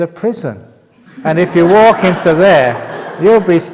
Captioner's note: laughter